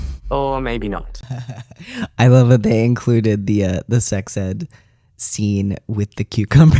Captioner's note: laugh